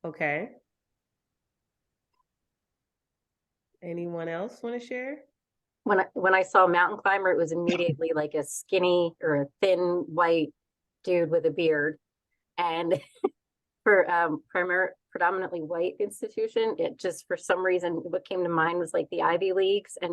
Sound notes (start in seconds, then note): 13.0 chuckles